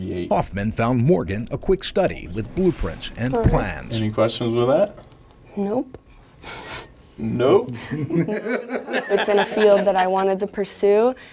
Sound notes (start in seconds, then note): 7.8 laughter